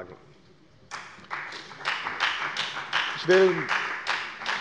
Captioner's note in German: Beifall bei der FDP